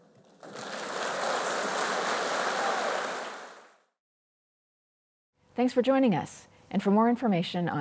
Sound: applause

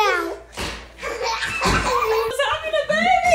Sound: girls laughing

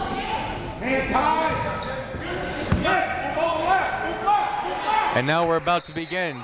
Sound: multiple people talking; crowd talking; coaches yelling

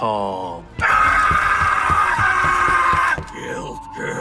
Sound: Goblin Slayer screaming; footsteps tapping; tense eerie music

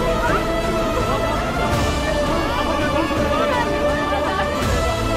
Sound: chattering

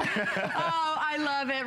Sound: laughter

